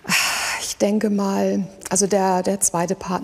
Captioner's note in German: seufzt